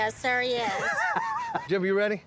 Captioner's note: laughing